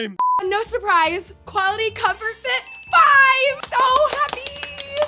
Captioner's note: electronic beeping; bells ringing; applauding